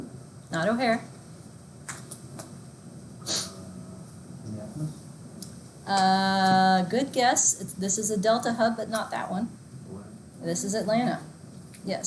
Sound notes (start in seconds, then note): 3.3 murmurs